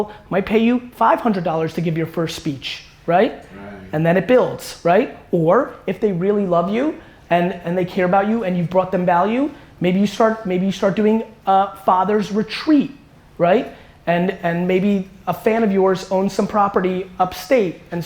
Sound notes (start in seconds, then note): none